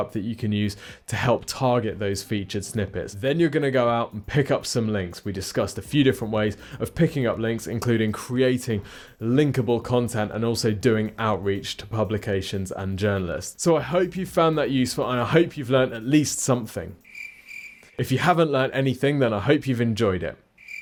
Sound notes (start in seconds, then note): 17.0 crickets chirping; 20.5 crickets chirping